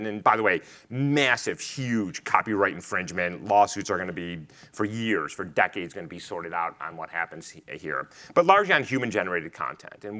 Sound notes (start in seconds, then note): none